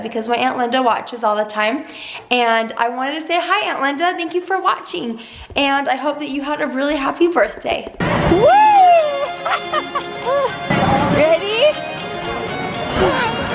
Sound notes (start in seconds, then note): 9.2 laughs